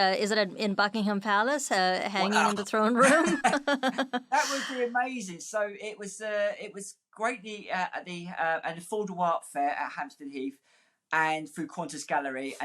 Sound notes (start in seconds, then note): 2.9 both laughing